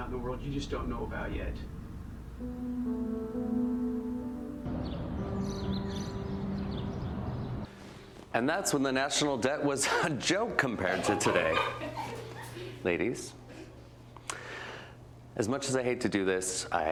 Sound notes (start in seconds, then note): 2.2 mellow music; 5.1 birds chirping; 10.8 students laughing